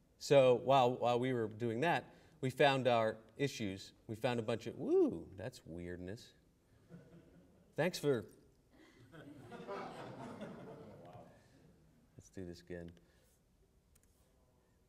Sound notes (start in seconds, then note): 8.8 laughter